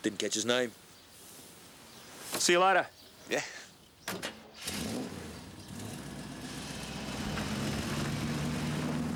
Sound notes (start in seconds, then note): 4.4 car door thuds; 4.6 car engine revving